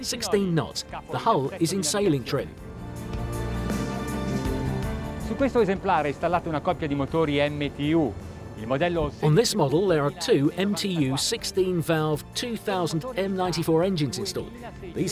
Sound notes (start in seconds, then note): 3.0 elated music; 5.5 speaking in foreign language